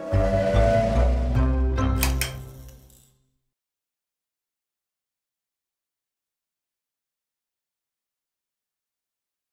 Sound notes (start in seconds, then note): 0.0 train whistle blows; 2.0 light clicks